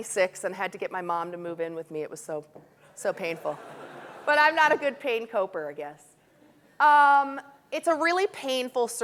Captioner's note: audience laughing